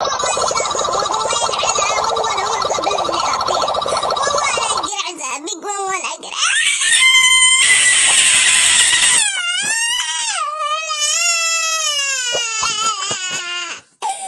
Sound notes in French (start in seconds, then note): 6.4 L'enfant crie